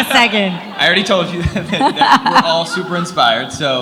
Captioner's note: laughs